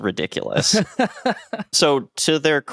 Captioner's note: laughs